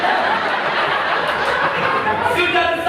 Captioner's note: imaginary audience applause